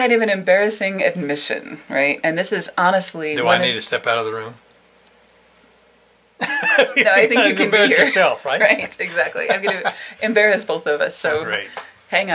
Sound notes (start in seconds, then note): 6.4 laughter